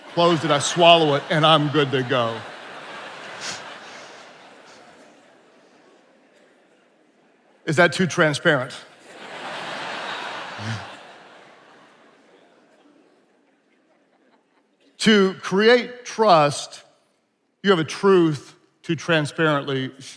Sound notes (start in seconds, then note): 2.6 attendees laughing; 9.0 attendees laughing